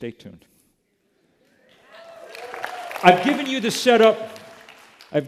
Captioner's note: applause